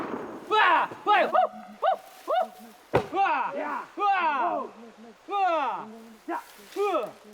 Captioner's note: bang; shouting